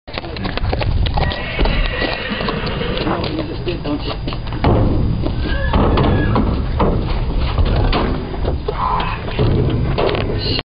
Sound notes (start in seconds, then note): 0.0 horse trotting; 3.2 horse walking; 4.5 hoof thuds on metal trailer